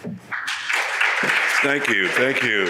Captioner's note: audience applauds